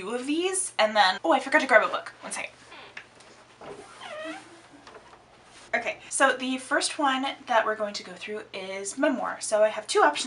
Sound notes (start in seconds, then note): 3.6 door opens; 3.6 door shuts